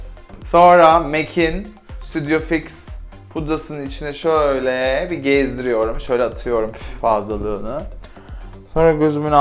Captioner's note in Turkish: pff